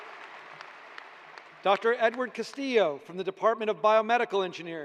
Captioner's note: cheers and applause